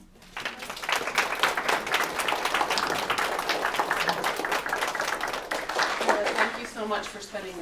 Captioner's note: applause